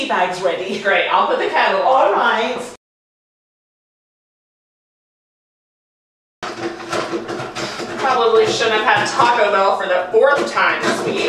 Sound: water sloshing

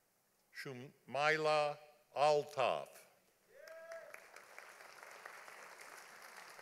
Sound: audience applauding

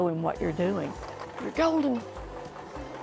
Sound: sewing machine clacking

